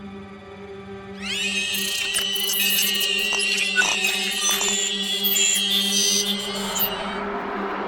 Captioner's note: shrieking noise